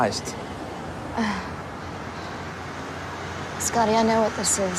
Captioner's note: laugh